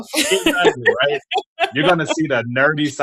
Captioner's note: laughing